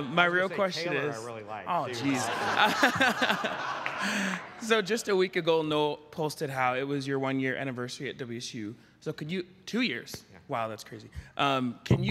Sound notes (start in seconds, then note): 1.8 attendees laughing